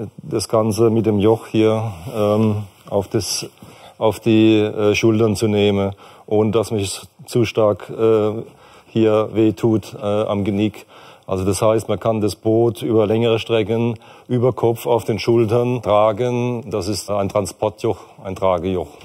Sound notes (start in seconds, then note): none